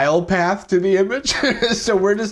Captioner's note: chuckles